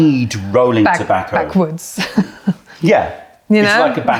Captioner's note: laughter